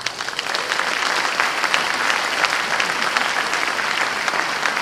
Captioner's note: applause